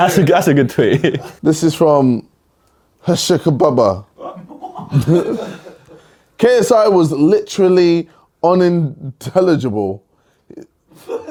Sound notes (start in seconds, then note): 4.2 laughs; 4.5 audience laughs